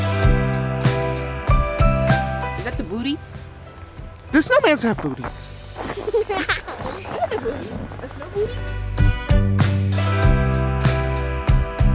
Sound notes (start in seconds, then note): 5.8 laughing; 9.2 upbeat music